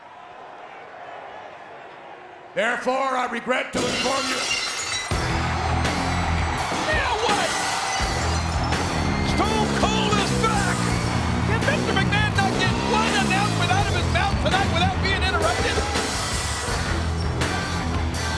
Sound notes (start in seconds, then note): 0.0 audience boos; 3.7 glass shattering; 5.0 audience cheering; 5.0 rock music